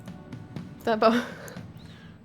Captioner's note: laughter